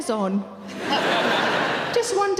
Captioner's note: audience laughing